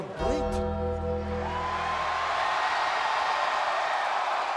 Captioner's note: audience cheering